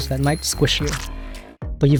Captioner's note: squish